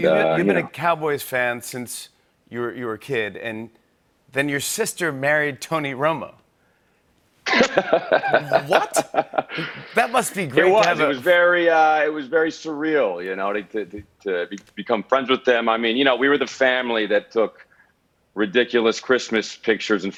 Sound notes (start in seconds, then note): 7.5 laughs